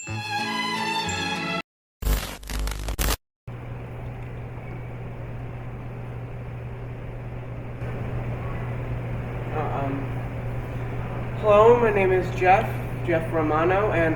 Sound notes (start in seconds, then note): 0.0 cheery violin music plays; 2.0 glitch sound effect